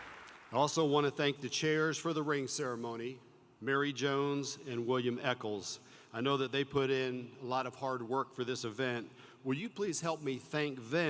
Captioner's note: applause